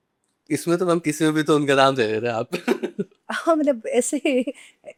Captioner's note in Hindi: हंसी